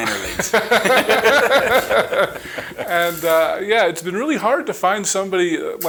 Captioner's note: chuckling